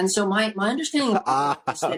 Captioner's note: laughter